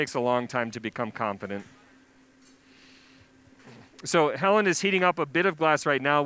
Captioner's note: pause